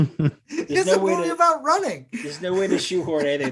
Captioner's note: laughs